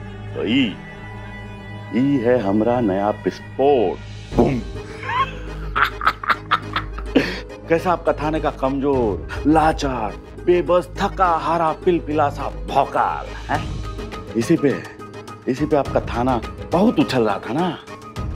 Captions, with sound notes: And this was the bang! [laughs] Look at the officer from your police station. So weak, helpless, and good-for-nothing officer. Your police station is too proud of her, right?